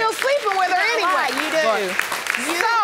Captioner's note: audience clapping